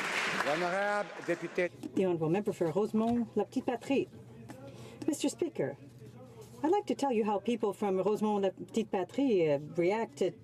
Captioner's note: some applause